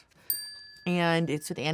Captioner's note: tone dings